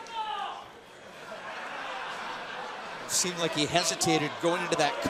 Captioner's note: crowd chatter